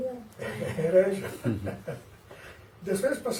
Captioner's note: laughs